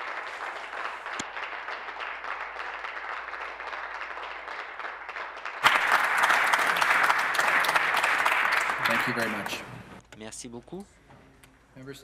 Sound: applause

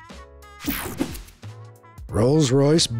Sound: swooshes

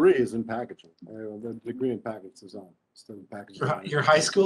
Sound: speaking faintly

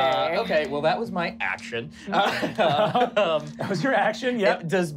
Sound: laughing

